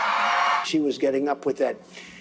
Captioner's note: cheering